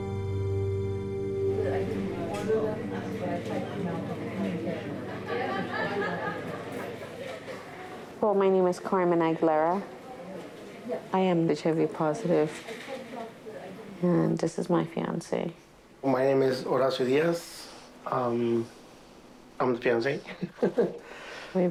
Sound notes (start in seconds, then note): 1.5 people chatting; 5.2 woman laughing; 20.3 laughs